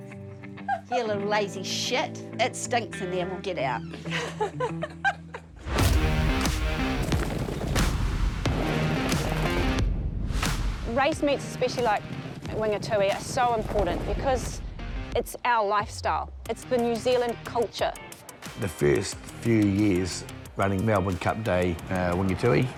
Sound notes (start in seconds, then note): 0.2 laughs; 3.7 laughs; 5.5 rock music; 6.0 hooves thud